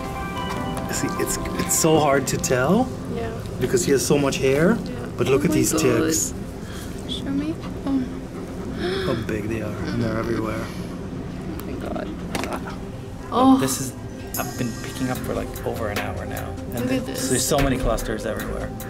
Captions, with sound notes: You see it's it's so hard to tell. Yeah. Because he has so much hair. But look at these ticks. Oh my God. Show me, oh. [Gasp] Look how big they are and they're everywhere. Oh my God. Oh. This is, I've been picking up for like over an hour now. Look at this. There's so many clusters everywhere.